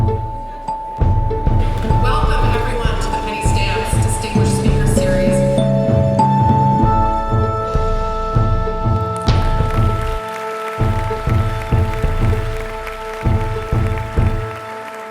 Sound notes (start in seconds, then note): 9.1 audience applauding